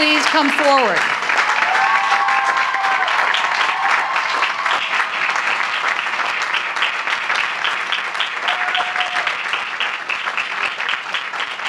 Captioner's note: applause